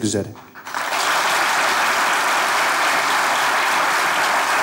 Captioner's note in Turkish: Alkış sesleri